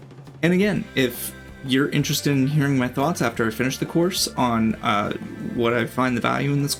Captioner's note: uh